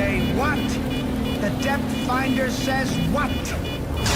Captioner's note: alarm beeping; crash